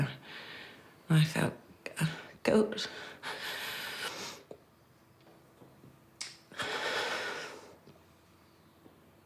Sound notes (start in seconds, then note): 2.3 breathes raggedly